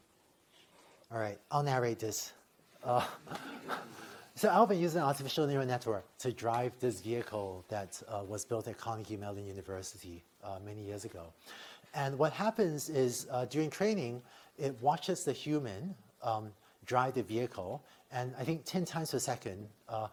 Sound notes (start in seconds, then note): 2.9 laughter